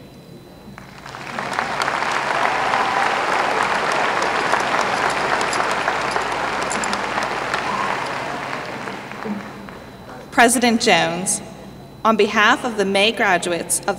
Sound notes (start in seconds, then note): 4.4 applause